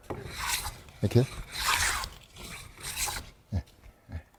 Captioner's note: planing sound